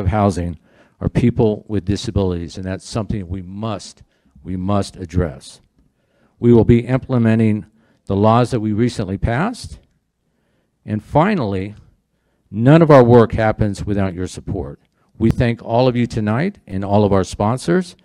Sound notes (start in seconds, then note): none